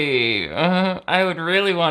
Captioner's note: laughs uncomfortably